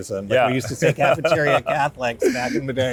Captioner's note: laughing